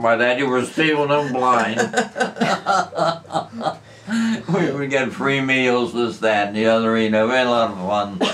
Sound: laughter

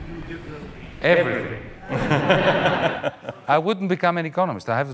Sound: audience laughing lightly

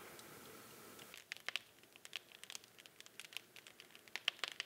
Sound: fire crackling

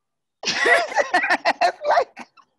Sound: both laugh

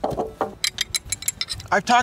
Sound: clinking

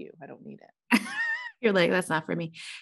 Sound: laughing

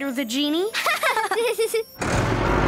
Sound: laughing

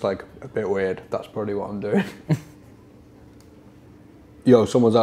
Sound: chuckles

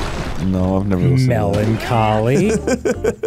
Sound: laughing

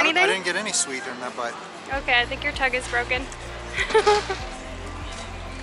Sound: laughter

